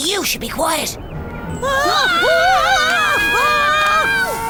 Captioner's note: screaming